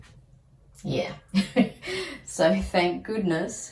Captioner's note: wry laugh